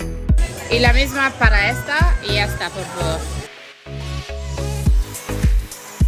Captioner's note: speaking in foreign language